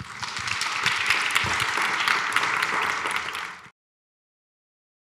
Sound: audience members applaud

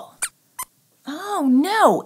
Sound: squeaks squeaks

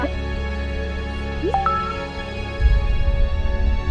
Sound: bwa-ding!

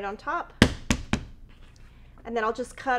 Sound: tapping

